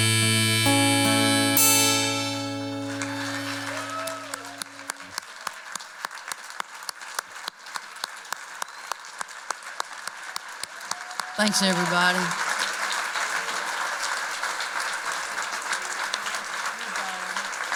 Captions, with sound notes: [applause and cheers] Thanks, everybody.